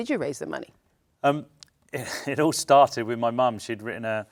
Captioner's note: chuckles